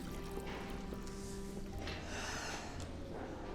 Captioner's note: sigh